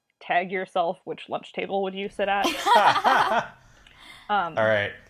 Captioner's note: laugh